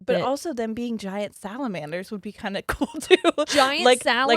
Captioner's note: giggles